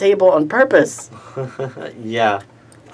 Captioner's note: laughter